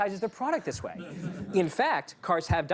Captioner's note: laughter